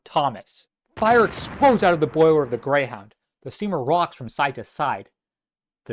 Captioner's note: explosion